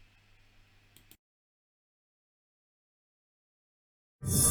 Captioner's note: mouse clicks